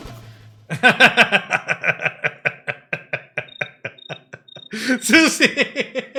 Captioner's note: laughs